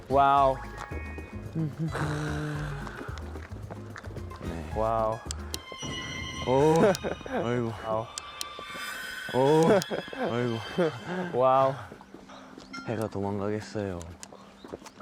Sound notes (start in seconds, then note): 4.4 playful